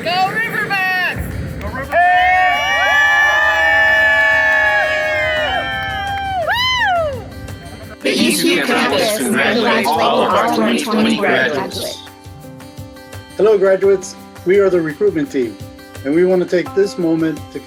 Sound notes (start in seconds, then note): 2.0 crowd applauds